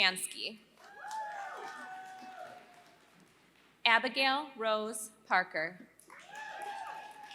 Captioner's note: applause